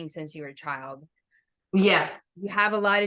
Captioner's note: none